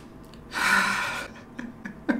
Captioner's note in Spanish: suspiro; risas